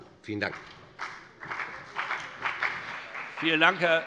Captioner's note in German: Beifall CDU und BÜNDNIS 90/DIE GRÜNEN